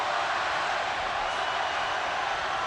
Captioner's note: loud cheering